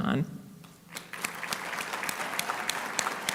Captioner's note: applauding